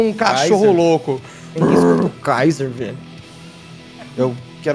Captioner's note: Guaxi grunts